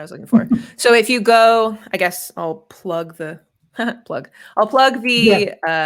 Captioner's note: laughs